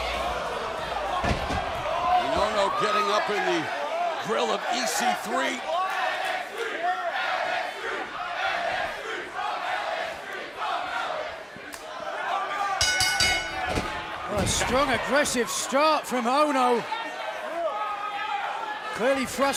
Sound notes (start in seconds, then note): 5.5 crowd cheering; 12.8 bell ringing